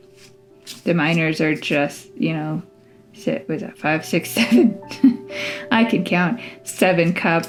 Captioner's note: laugh